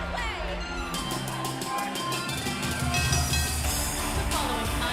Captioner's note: bell ringing